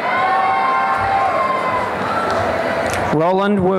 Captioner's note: applause and cheering